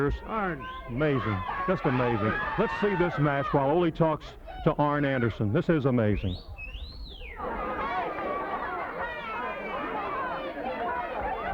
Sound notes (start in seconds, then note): 6.2 audience whistling; 7.2 crowd clamoring